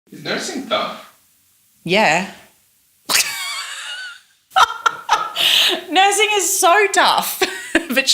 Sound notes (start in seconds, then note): 4.5 laughs